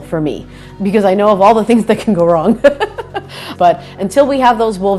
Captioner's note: laughs